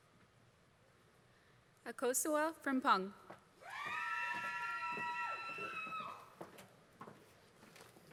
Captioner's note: applause